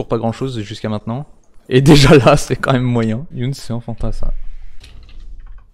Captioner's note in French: rire